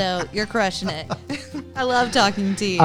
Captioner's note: laughter